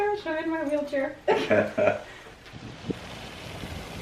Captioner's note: laughs